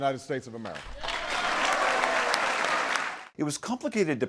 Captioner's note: applause